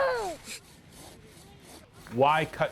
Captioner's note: saw grinding